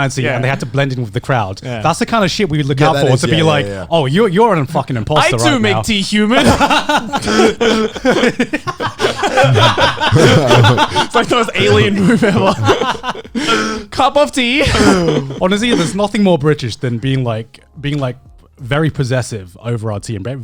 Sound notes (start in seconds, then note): 7.8 laughs; 9.2 men laughing